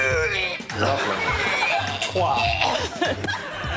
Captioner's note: retching